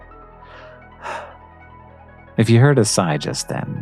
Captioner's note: sigh